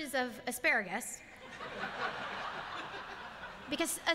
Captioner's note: laughter